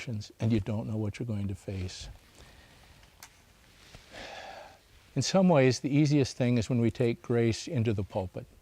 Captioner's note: sighs